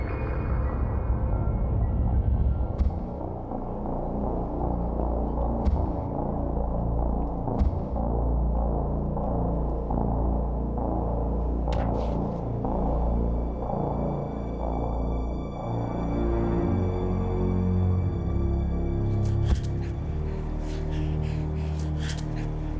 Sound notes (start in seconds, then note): 0.1 foreboding orchestral music; 7.4 kicks bashing